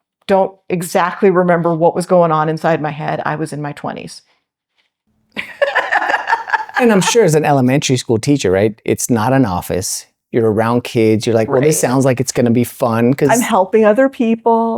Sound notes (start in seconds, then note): 5.4 laughing